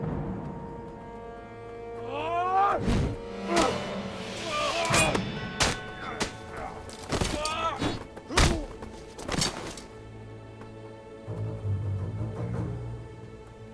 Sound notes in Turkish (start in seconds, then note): 0.0 Müzik - Gerilim; 2.0 Savaş sesleri